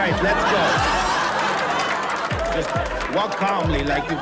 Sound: laughter

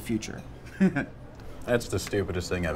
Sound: chuckles

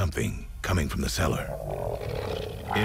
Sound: low growling

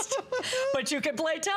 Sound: laughter

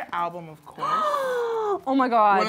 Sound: gasps

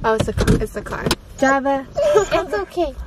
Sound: Java whining

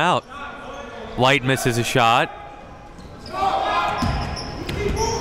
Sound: yelling

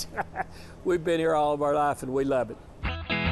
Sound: laughing

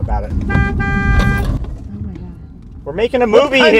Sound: honks Car Horn

